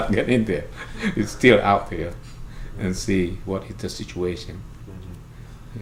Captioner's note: laughs